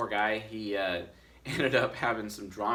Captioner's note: chuckles